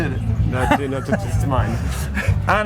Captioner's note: laughs